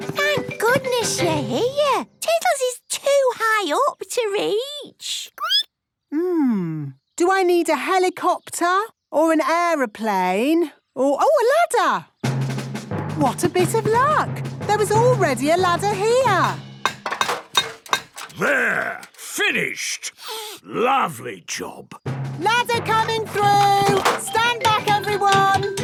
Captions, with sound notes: - Thank goodness you're here! Tiddles is too high up to reach! (squeaking) - Mmm... do I need a helicopter, or an aeroplane or... A ladder! What a bit of luck! There was already a ladder here. - There! Finished! Lovely job! - Ladder coming through! Stand back everyone!